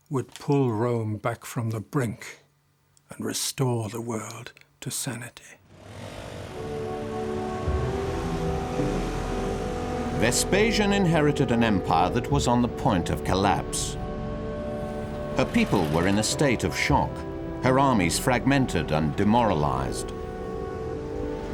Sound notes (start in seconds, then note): 5.6 motors revving; 5.8 soft music